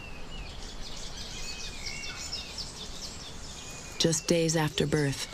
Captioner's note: birds chirping